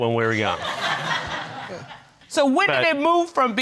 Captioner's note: crowd laughing